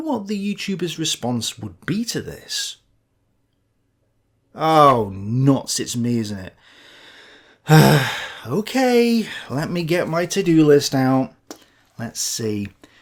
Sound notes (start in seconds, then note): 7.6 sigh